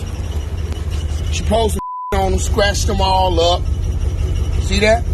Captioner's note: beep